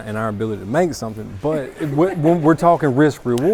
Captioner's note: laughs